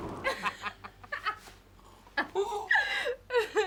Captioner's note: laughing